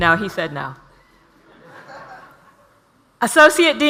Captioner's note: audience laughs